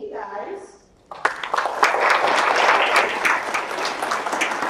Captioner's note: audience applauds